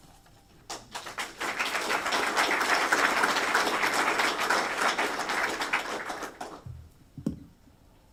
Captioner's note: applause